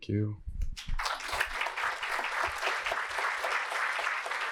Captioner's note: applause